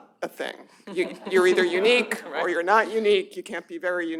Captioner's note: laughter